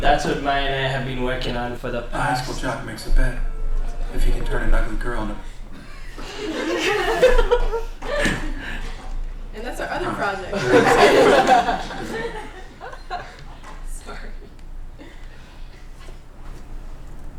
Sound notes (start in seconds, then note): 5.8 laughter; 12.9 laughter